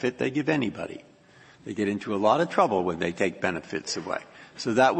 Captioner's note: laughter